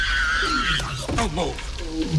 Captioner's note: screaming